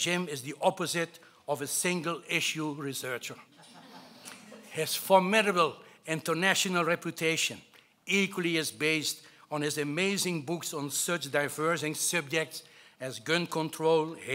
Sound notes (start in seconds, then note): 3.5 laughing